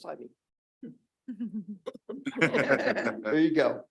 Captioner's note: chuckling